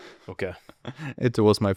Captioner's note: laughs